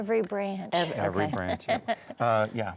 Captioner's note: laughs